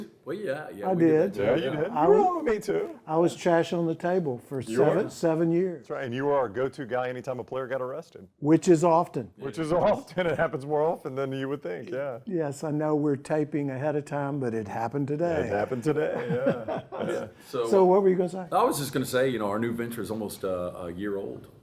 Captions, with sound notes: >> Me and you? >> Well, yeah, yeah. >> I did. >> Yeah, you did. Me too. >> I was "Trash on the Table" for seven years. >> That's right, and you were our go-to guy anytime a player got arrested. >> Which is often. >> Which is often. It happens more often than you would think, yeah. >> Yes. I know we're taping ahead of time, but it happened today. >> It happened today, yeah. (laughter) >> So what were you gonna say? >> I was just gonna say,